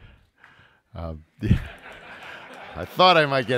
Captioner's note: audience laughing